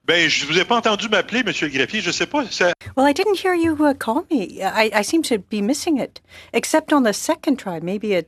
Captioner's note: speaking French